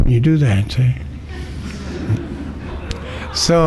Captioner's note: laughter